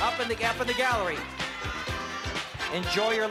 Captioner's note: yelling